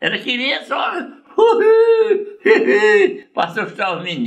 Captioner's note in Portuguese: imita o assovio